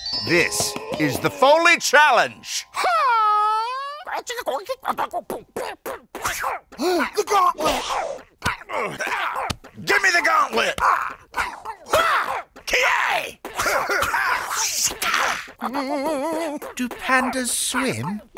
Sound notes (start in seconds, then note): 6.7 gasps; 7.5 grunts; 11.8 kung Fu noises; 13.4 grunts